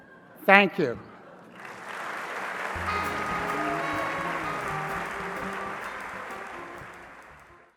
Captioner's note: applause